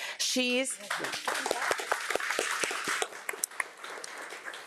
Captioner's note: audience applauding